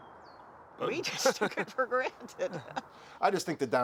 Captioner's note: laughing